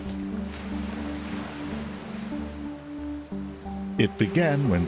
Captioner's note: rushing water